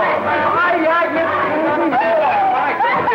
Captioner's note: laughing